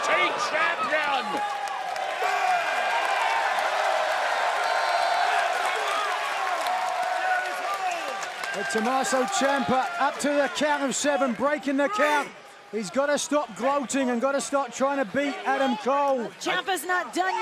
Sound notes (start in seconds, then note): 3.7 crowd cheering